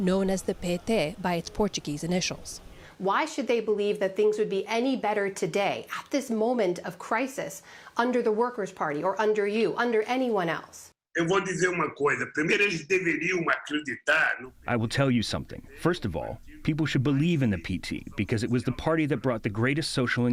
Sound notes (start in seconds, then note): 12.8 through translator